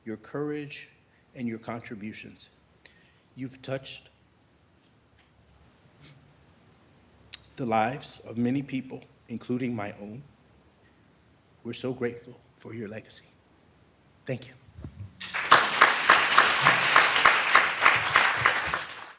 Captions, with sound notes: your courage and your contributions. You've touched the lives of many people, including my own. We're so grateful for your legacy. Thank you. (audience clapping)